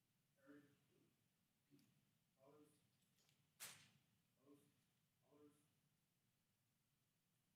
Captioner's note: speaking distantly